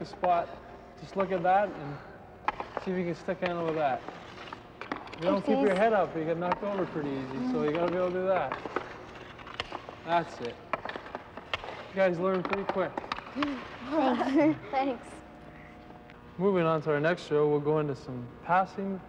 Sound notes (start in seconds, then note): 14.0 laughter